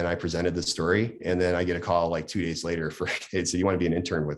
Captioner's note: laughs